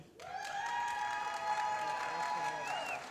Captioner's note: applause